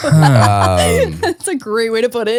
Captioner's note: laughing